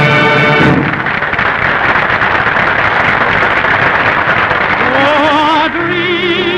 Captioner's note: applause